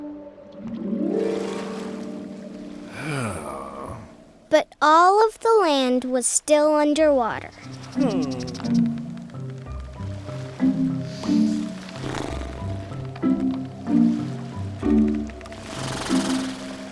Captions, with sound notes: (disappointed groan) But all of the land was still underwater. (lips fluttering)